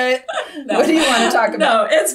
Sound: laughs

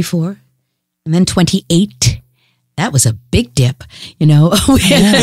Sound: guffaw

